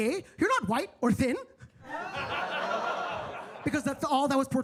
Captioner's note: attendees laughing